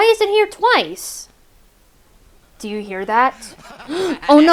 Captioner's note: crescendo of evil laugh